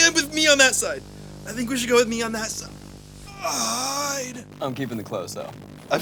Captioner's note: groans